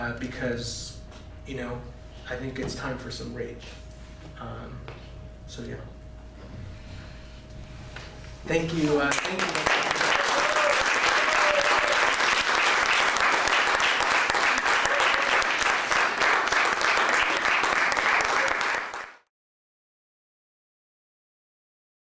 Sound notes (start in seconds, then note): 9.0 applause